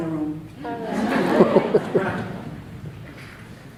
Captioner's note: laughs